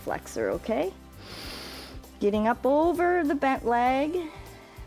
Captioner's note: inhales